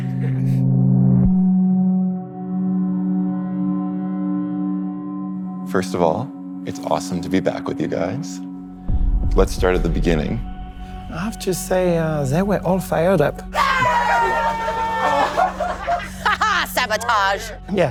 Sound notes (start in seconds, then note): 13.5 shouting; 13.6 laughing; 16.3 laughs